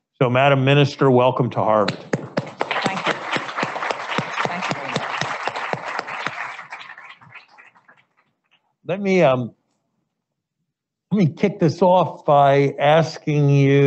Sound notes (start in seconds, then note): 1.8 audience applauding